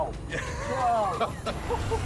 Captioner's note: laughs